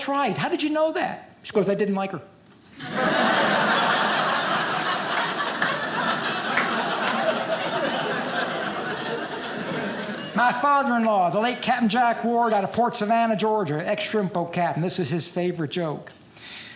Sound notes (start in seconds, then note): 2.7 audience laughing